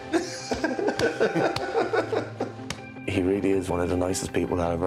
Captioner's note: laughter